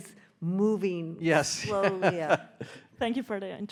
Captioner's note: laughing